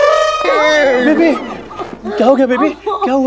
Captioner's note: Crying